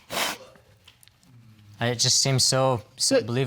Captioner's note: crying